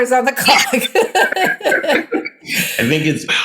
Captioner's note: laughing